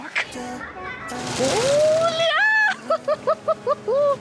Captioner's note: laughing